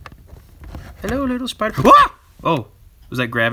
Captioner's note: screaming